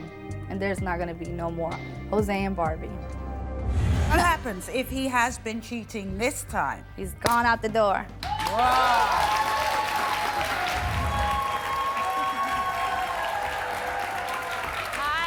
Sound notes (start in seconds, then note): 8.2 audience applauds